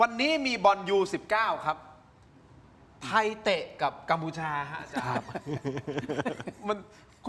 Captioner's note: laughter